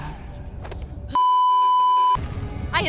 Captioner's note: beeeeeeeeeeeep